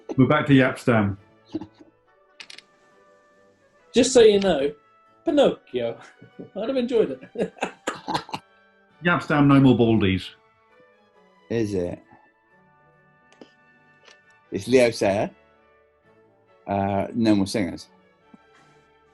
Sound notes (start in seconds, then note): 5.0 bouncy italian accent; 7.0 laughter